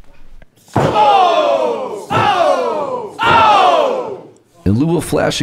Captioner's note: audience cheering